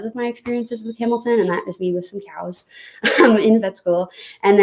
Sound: laughs

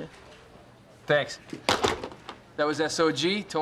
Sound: replacing of receiver

